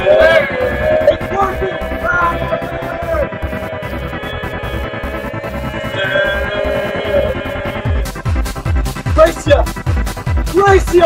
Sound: yelling

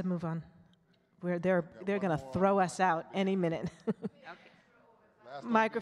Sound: chuckles

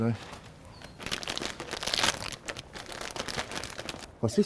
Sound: crackling paper

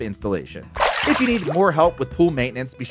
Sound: water splashes

